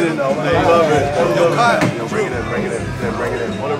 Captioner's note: group chattering